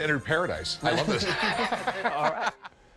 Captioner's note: laughter